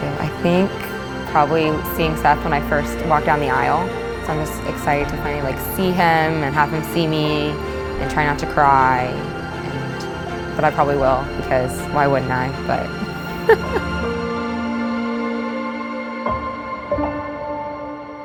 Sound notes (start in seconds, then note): 13.0 chuckles; 14.6 gentle piano music